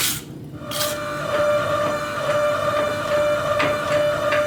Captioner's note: press whirring